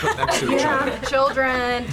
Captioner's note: laughs